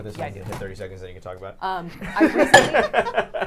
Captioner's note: laughs